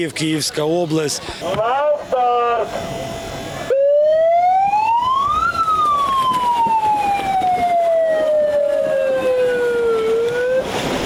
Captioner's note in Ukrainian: звук сирени, що сповіщає про старт змагань; плескіт води, вигуки дітей